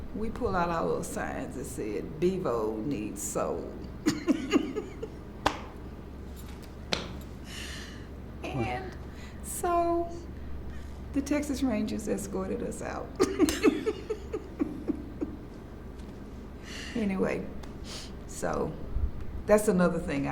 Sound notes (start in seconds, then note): 4.0 laughs; 13.2 laughs